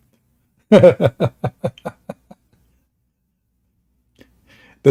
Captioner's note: Ketawa